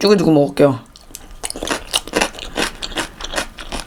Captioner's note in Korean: 아작아작아작